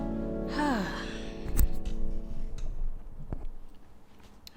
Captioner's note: she sighs